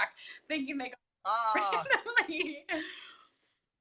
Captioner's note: laughs